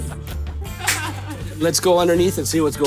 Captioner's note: laughs